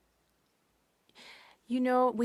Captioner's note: speaking French